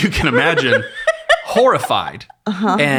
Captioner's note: laughing